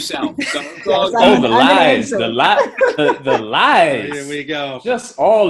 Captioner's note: group chattering